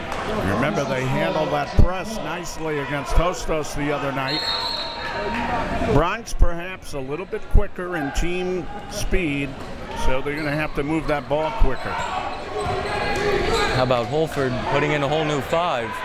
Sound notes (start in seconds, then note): 4.2 whistle tweeting